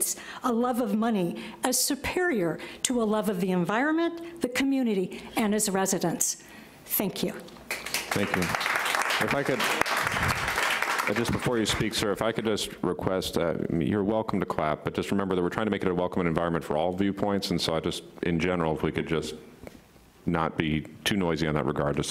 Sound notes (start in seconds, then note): 9.3 applauding